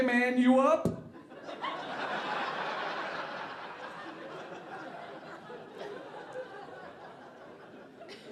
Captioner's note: audience laughing